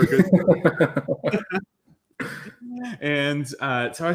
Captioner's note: laughter